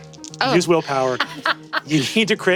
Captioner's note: laughs